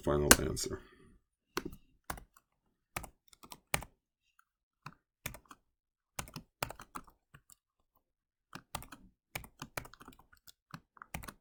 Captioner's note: typing